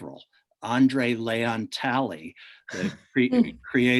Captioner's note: chuckles